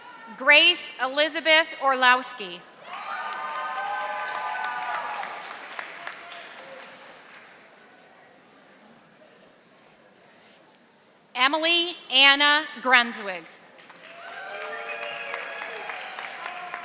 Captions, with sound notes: Grace Elizabeth Orlowski. (audience applauding) Emily Anna Brunswig. (audience applauding)